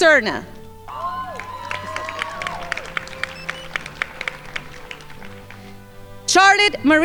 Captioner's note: crowd applauding